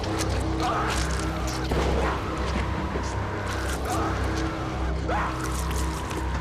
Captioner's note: flesh squelching; dramatic music; Bill screaming